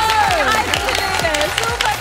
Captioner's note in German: Jubel